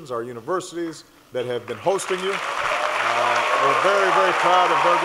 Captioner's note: applause